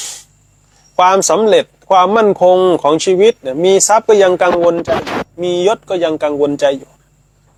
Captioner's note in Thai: เสียงสูดหายใจ